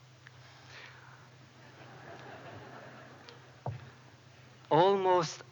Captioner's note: laughter